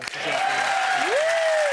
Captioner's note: audience cheering and clapping drowns out speaker